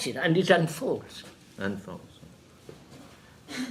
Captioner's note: in a whisper